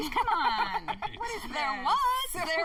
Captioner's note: laughter